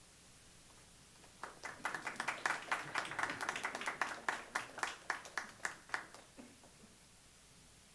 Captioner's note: clapping